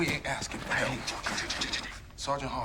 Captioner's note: stammers